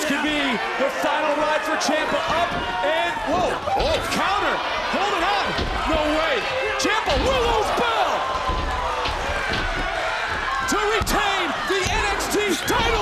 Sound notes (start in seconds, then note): 6.8 referee hammering